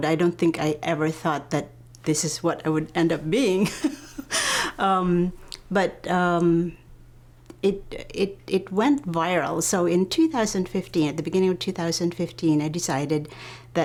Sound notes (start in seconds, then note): 3.7 softly laughs